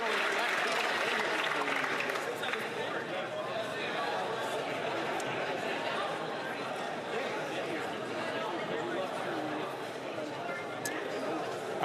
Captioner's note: applause